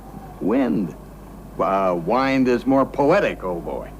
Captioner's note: wind